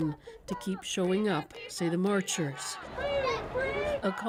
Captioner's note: chants